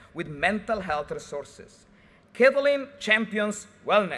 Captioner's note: none